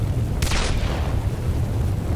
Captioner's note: gunshot